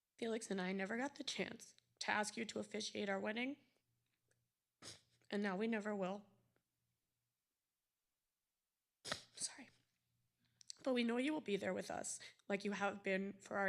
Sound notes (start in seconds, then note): 8.9 whispering